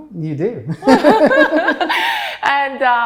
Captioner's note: all laughs